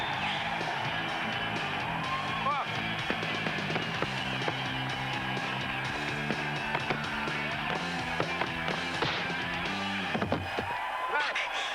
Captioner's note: screams